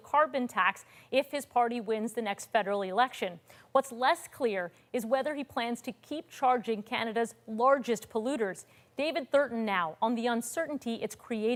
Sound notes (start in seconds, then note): none